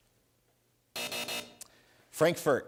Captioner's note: buzzer